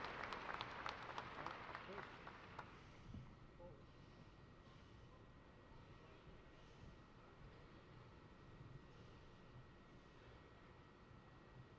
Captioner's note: applause